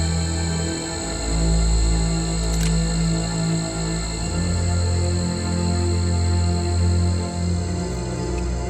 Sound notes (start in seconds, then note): 2.5 gun clicks